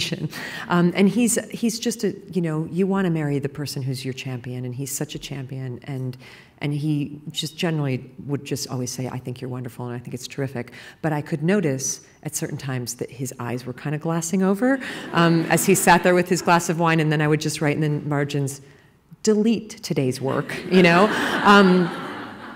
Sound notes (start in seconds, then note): 15.0 laughter; 20.4 laughter